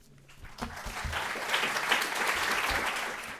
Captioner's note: audience applauds